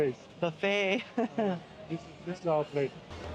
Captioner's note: laughing